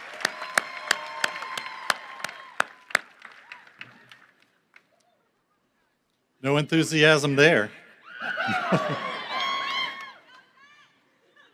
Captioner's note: cheering and applause